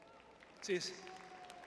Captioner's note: crowd cheering